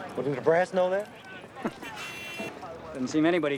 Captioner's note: both chuckling